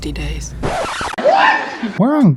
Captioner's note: record scratch